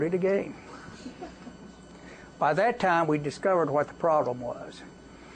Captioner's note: laughter